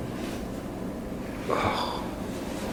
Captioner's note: exhales